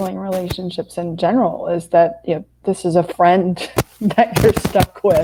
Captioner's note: laughs